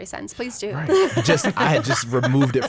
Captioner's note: group laughs